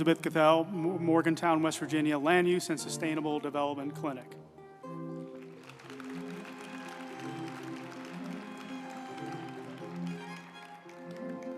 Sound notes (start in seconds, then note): 4.7 uplifting music; 4.9 group applauding